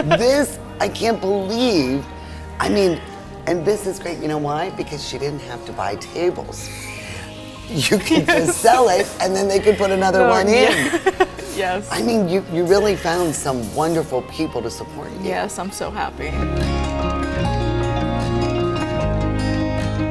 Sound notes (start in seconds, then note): 11.4 laughs; 16.9 peaceful music